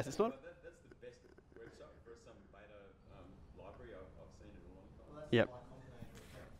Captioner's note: voiceover